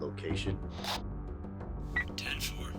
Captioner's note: radio static buzzes; radio beeps